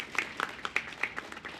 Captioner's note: applause